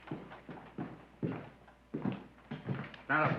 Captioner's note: footsteps